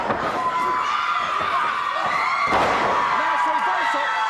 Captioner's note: audience cheers